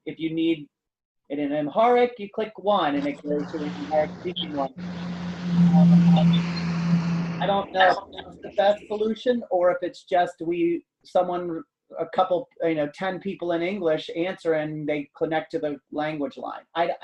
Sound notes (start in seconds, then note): 2.8 truck engine roaring